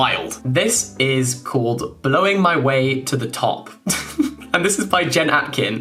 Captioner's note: giggling